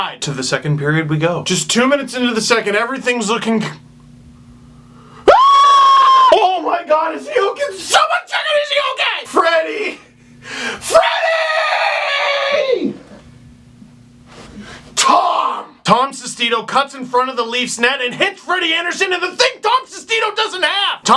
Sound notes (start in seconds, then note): 5.2 screams